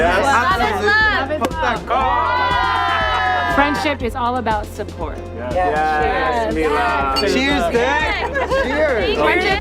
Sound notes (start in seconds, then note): 1.8 all cheering